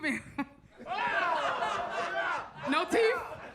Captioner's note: audience laughs